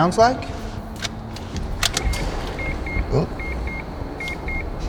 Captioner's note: car beeping